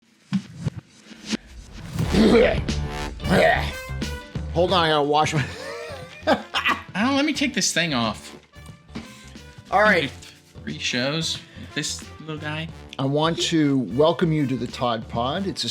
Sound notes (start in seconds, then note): 3.3 another grunt; 3.3 grunt